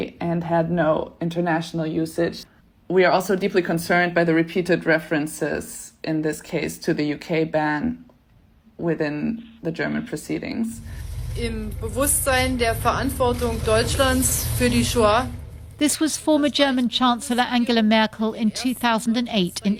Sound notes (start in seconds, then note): 11.4 foreign language